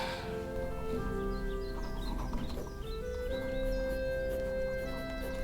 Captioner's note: bird chirping